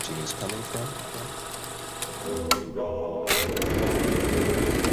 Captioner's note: projector clicking